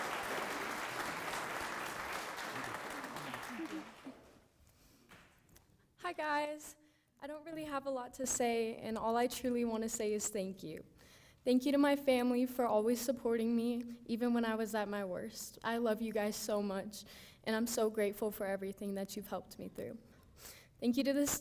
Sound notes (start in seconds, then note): 0.0 applause